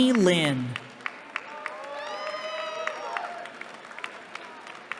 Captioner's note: cheering